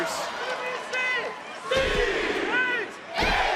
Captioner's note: crowd yells "c"; crowd yells "h"